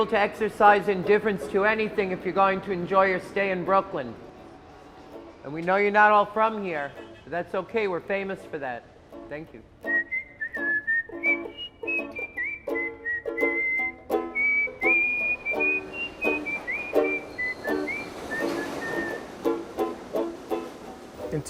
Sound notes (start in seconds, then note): 9.8 whistling